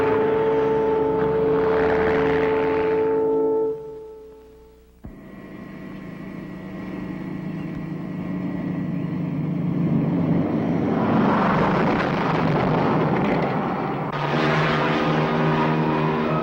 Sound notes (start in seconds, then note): 0.0 truck engine whirring; 9.5 truck whizzes; 14.4 helicopter roaring; 16.2 dramatic music